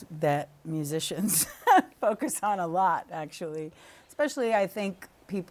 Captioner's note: laughter